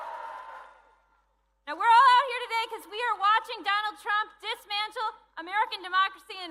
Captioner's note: cheering